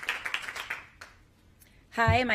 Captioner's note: applause